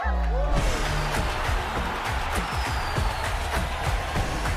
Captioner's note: cheering from a room; crowd cheering